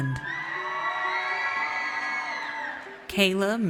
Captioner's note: audience cheers